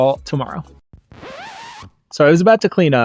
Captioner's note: record scratch